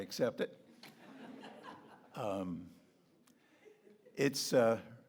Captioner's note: audience laughing